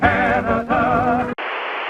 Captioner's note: static